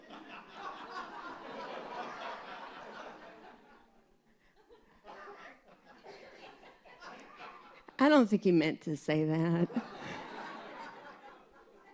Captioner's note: laughter